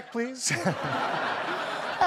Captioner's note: audience laughing